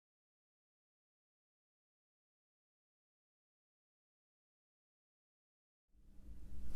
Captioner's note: silence